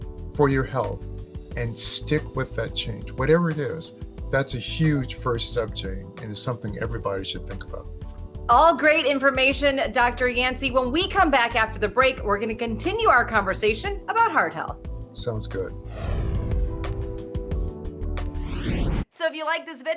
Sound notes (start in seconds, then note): 17.0 upbeat music; 18.2 air whooshing